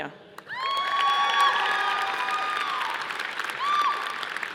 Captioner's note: audience applauding